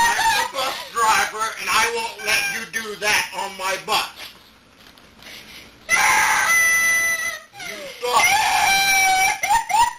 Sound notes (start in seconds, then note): 0.0 crying continues; 7.1 whimpering continues